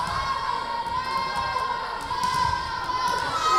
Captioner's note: yelling